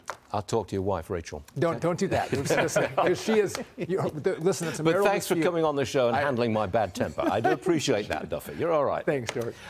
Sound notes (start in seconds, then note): 7.0 laughter